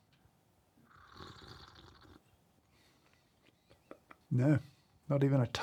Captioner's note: slurping